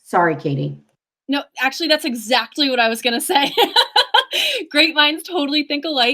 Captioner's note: laughs